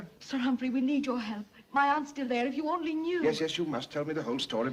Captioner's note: none